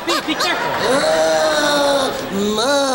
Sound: gigio groaning

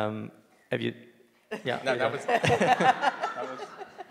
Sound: laughing

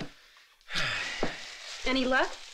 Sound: Rick sighs

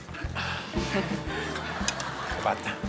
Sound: sighing

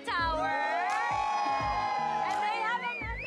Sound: cheers

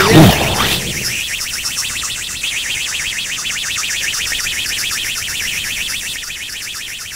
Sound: explosion; rocket engine

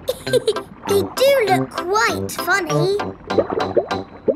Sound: laughs

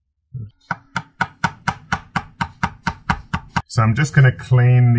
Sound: hammer taps

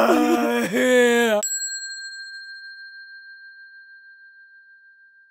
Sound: bell dinging

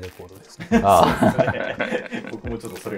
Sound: laughing

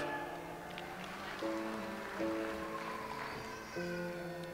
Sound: audience applauds

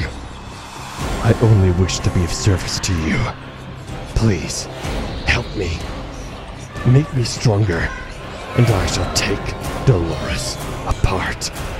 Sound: resonant whispers

